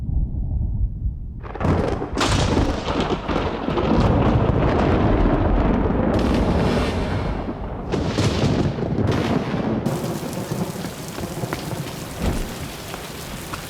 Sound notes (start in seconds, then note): 0.1 thunder rumbling; 9.8 rain splattering